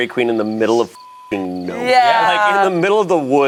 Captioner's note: beeps